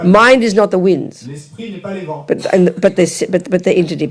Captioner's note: audience member speaks in French